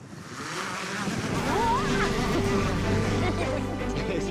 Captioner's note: drone buzzing